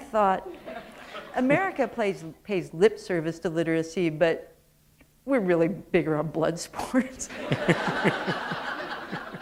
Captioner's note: laughter